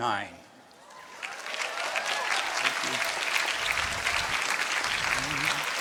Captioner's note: applause